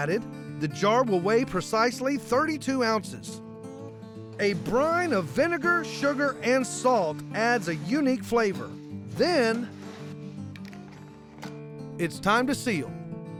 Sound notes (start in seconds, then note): none